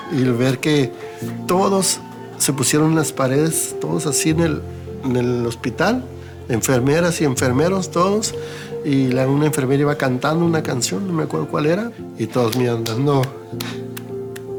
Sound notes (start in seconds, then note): 0.5 man speaking Spanish